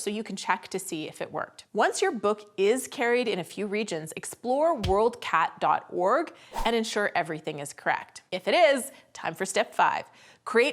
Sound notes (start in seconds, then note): 6.5 swish sound effect